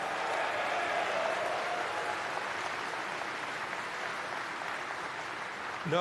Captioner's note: applause